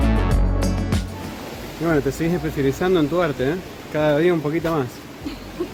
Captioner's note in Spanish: risas